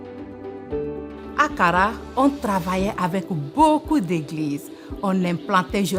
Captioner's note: speaking in French language